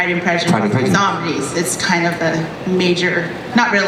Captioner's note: voiceover